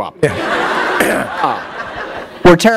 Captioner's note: laughter